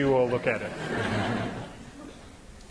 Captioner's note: laughter